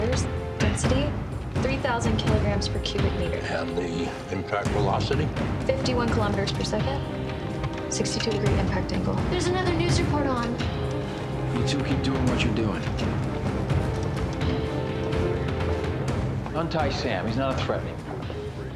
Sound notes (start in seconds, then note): none